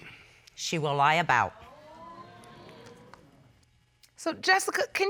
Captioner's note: audience exclaiming